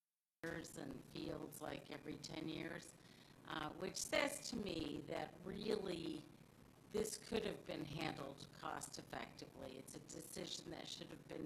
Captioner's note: audio distortion